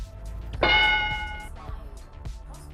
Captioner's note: ding